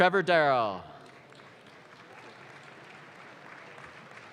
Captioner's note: audience claps